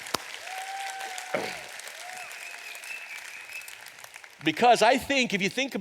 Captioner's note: audience applauds